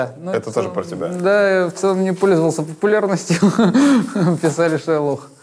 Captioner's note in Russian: смеется